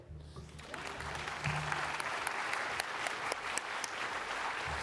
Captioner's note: audience applauding